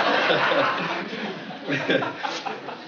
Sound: laughing

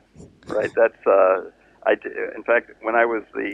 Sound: laughs

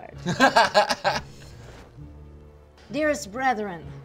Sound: he laughs

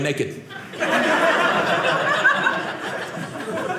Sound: audience laughing

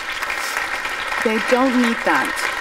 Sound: applause

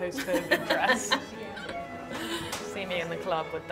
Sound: laughs

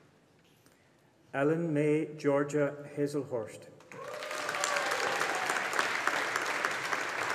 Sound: audience applauding

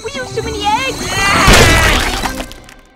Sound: screaming

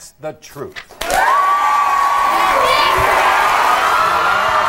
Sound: audience applauding

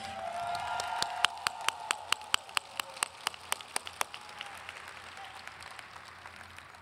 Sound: audience cheering and applauding

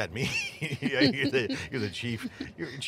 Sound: laughing

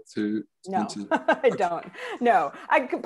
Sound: chuckles

